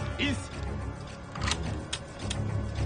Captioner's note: gun cocks